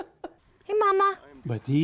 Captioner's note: laughter